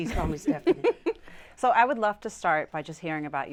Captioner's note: laughs